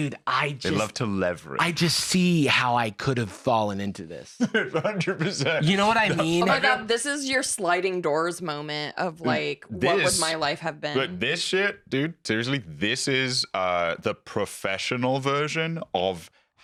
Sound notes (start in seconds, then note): 4.4 laughing